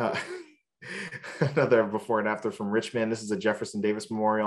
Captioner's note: laughs